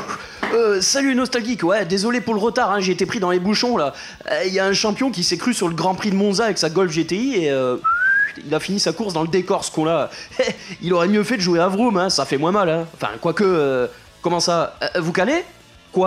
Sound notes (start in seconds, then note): 7.8 whistle